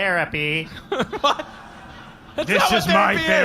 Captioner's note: laughing